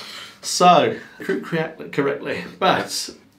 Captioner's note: inhales